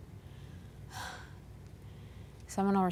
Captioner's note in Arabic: تنهدات